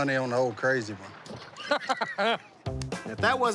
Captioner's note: laughs